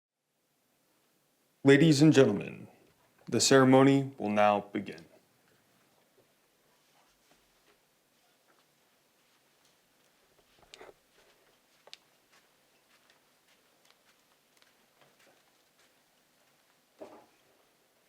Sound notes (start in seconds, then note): 12.8 footsteps approaching